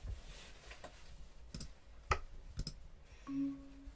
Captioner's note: mouse clicking noise